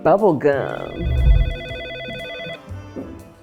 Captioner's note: phone rings